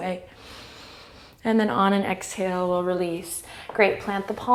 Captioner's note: inhale